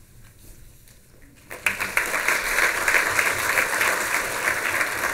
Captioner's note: applause